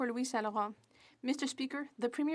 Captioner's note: speaking French